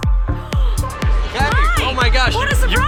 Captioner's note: gasps